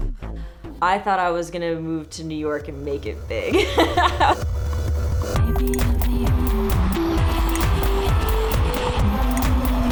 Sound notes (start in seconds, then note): 3.4 laughing; 5.4 lively music